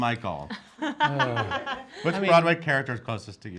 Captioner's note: laughing